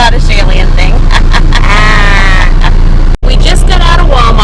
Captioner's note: laughs